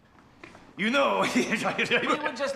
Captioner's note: uncle speaking gibberish